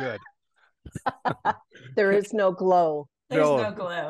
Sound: laugh

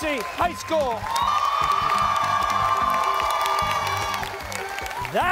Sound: cheers and applause

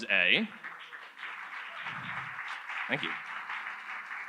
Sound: audience applauds

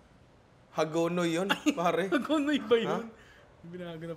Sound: laughs

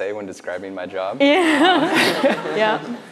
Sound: laughs

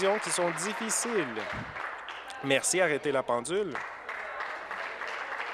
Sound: applause

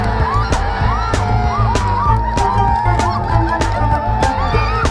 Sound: crowd cheering

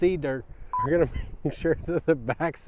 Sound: beep, laughter

